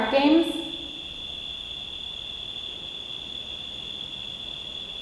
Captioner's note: crickets chirping